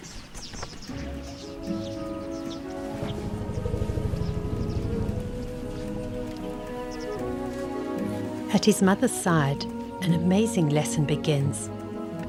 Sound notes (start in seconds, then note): 3.4 rumbling; 3.4 animals calling